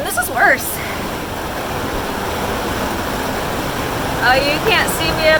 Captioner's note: rain pounding